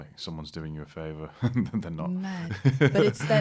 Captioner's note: laughter